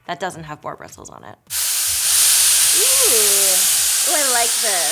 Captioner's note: dryer whirs